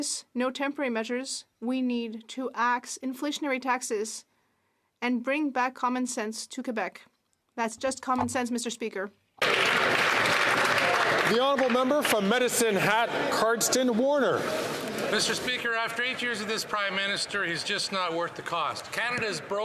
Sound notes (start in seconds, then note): 13.9 applause